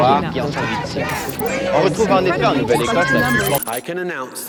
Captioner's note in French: Voix des démonstrations